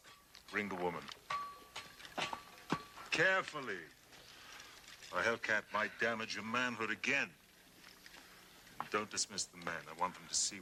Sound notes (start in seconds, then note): none